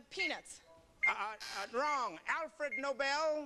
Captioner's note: buzzer